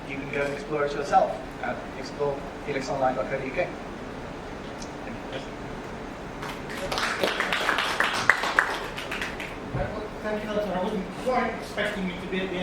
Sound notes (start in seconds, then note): 10.2 clapping